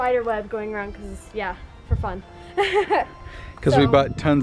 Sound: laughs

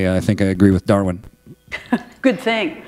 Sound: chuckle

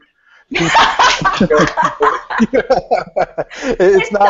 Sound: laughter

